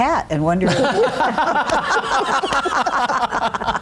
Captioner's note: all laugh